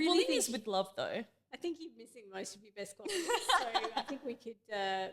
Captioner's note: laughing